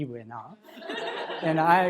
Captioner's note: laughter in crowd